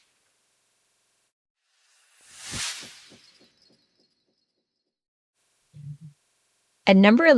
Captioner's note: sound effect